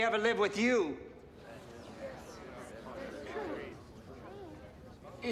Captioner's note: crowd murmurs